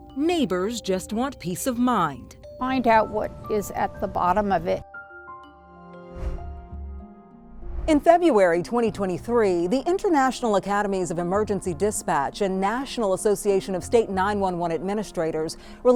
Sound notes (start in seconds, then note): 6.1 air whooshing; 6.1 pensive music